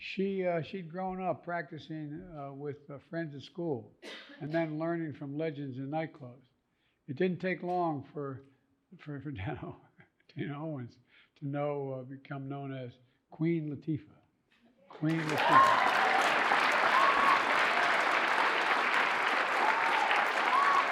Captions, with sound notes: She'd grown up practicing with her friends at school and then learning from legends in nightclubs. It didn't take long for Dana Owens to become known as Queen Latifah. Queen Latifah. (audience applauding and cheering)